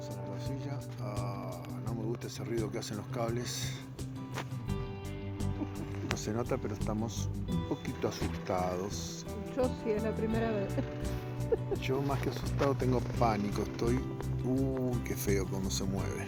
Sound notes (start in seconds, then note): 10.4 laughter